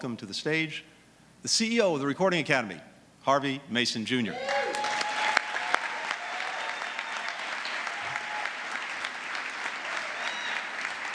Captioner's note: applause